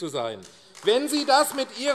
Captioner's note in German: Beifall AfD